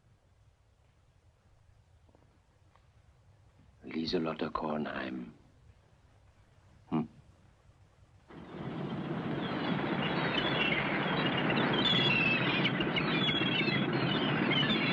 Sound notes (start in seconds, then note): 8.4 birds squawking